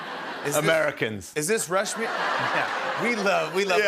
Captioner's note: laughter